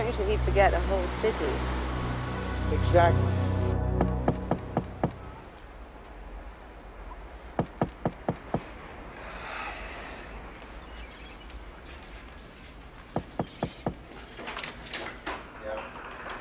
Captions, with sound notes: - Strange that he'd forget a whole city. - Exactly. (knocking on door) (sighs)